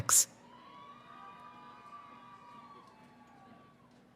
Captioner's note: cheering